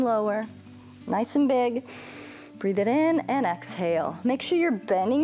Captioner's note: inhales